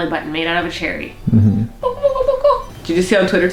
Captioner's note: high-pitched noises